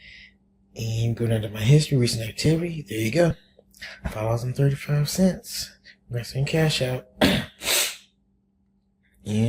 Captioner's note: coughs